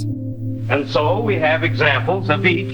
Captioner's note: soundbite of archived recording